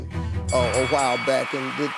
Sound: bell ringing

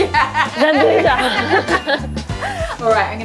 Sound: both laugh

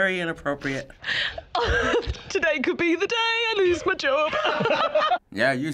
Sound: laughs; laughter

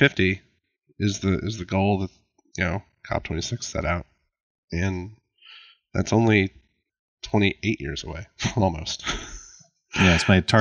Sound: laughs

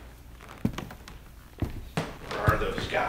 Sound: floor creaking

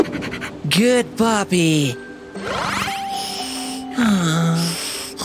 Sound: groans

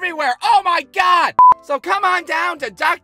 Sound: beep!

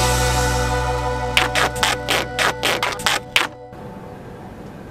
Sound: sounds of duct tape being unwound

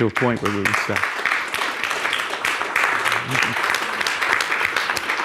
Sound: audience applauding

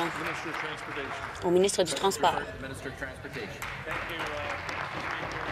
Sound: applause

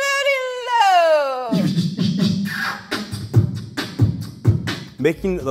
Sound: ^beatboxing

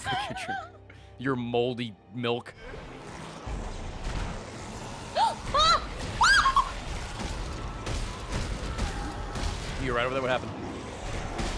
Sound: screams

